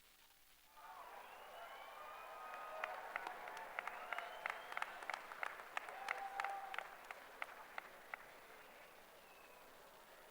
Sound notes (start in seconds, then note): 1.8 applause